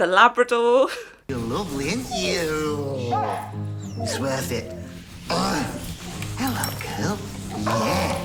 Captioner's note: gags